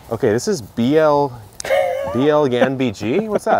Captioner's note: laughs